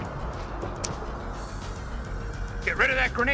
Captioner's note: grenade clicking